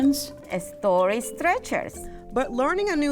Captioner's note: speaks Spanish